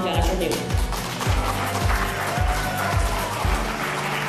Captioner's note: clapping